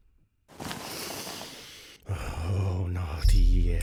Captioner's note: sigh